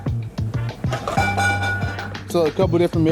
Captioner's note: pots clatter